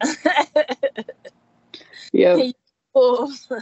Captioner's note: laughing